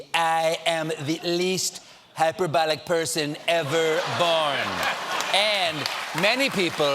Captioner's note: laughter